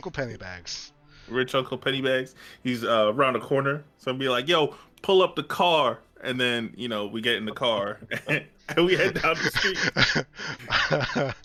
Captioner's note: laughs